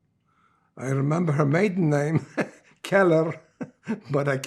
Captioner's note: laughing